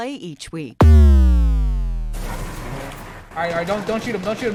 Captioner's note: video game chiming